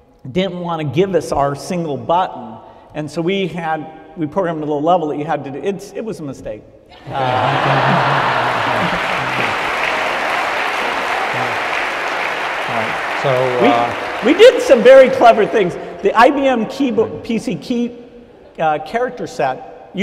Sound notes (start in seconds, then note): 7.1 laughter, applause